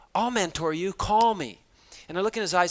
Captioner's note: none